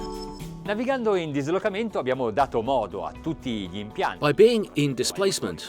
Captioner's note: speaking foreign language